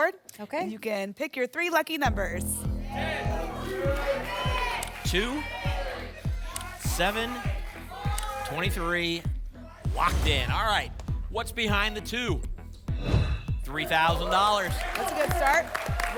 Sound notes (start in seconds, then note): 2.6 audience shouting numbers; 12.8 whoosh